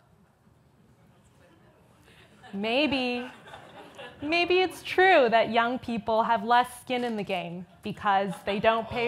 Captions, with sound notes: (audience laughs) Maybe it's true that young people have less skin in the game because they don't